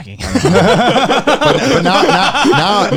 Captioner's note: laughing